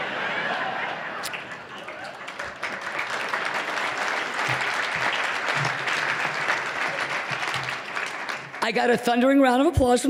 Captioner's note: applause